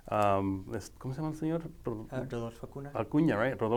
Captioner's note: speaking foreign language